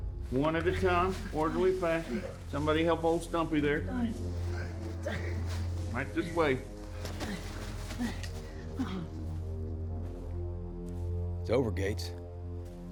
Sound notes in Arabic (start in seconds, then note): 6.5 رجل يتأوه